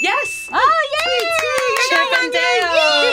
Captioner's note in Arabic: هتاف